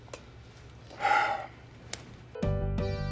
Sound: sighs

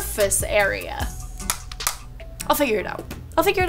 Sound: hair straightener snapping

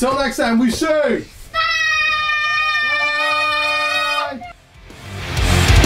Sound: screaming

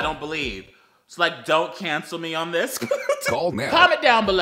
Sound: laughs

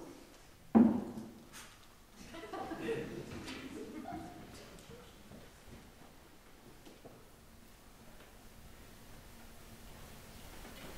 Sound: bottle clatters

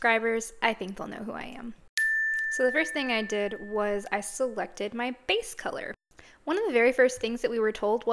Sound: said sarcastically

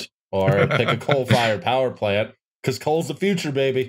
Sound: chuckles

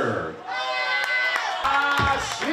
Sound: people applauding

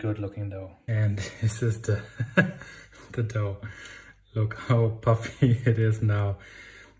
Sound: laughs

